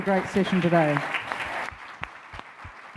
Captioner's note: audience applauds